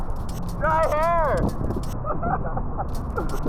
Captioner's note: laughs